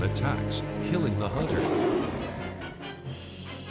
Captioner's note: roars